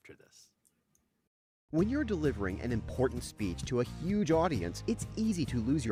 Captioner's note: voiceover